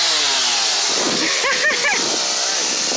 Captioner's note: laughter